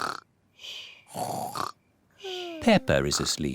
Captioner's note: snores